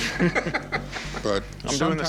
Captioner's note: laughter